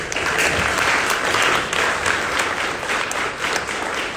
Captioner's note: audience applauding